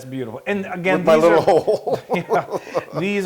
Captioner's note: laugh